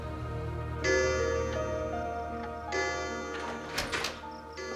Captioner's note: clock bell tolling